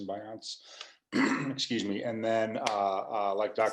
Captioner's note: clears throat